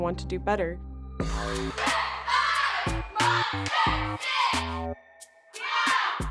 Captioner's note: MDP dancers chanting